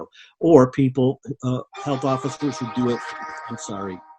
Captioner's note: phone ringing